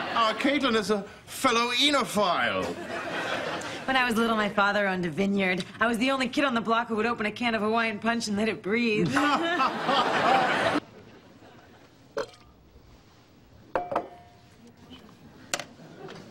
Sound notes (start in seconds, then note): 9.0 laughter